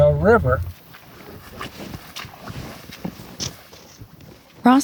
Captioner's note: water splashes